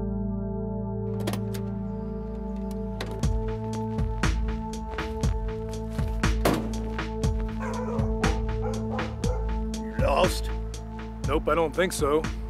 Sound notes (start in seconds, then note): 7.5 dog barking